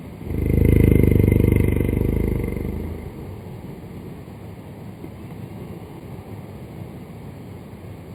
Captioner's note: creepy sound